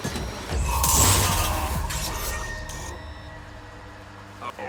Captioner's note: glass shattering